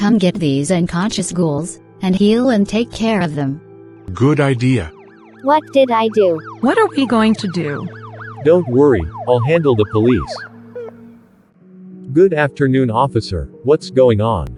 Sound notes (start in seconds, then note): 4.0 sirens approaching